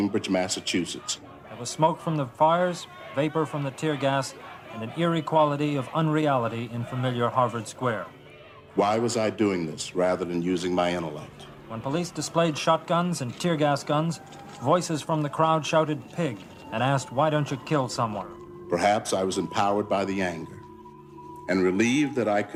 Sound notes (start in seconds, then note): 1.5 sounds of crowds jostling